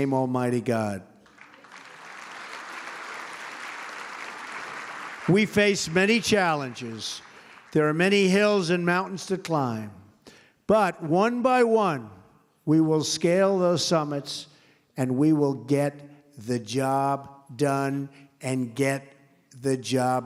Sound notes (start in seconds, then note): 3.0 applause